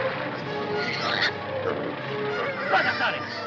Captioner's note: pig squealing; speaking foreign language